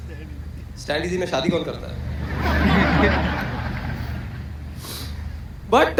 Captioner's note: audience Laughter